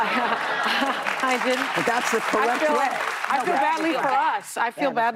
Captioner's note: laughter; applause